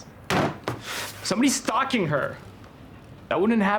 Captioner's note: bangs table